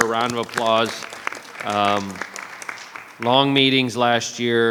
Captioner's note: audience clapping